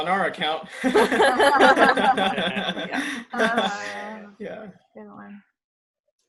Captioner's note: nervous laughter